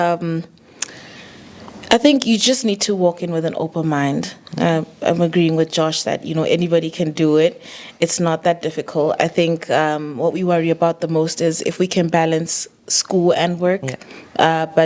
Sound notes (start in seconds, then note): none